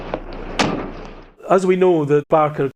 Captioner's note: door slamming